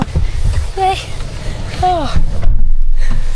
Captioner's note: sighs